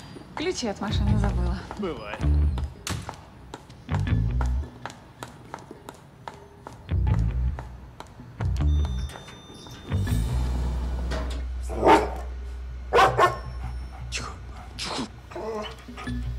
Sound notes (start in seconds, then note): 12.9 dog barking